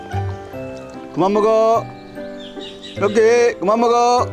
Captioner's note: jokingly